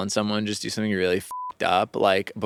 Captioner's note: beeping